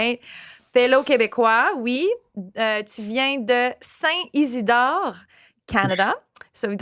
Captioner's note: foreign language